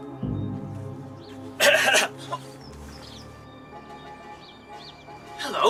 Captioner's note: master coughs